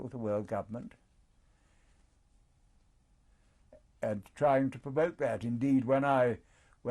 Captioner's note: pauses for 3 seconds